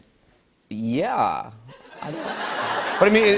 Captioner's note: laughter